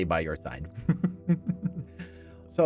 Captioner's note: laughs